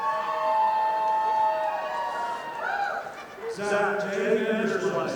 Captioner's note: audience applauding